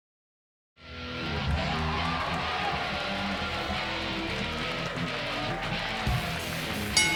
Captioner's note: rock music; crowd cheering